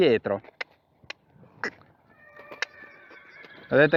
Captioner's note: cluck